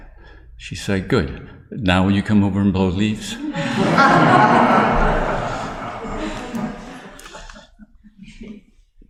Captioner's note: laughter